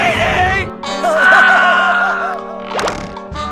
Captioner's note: Ed laughing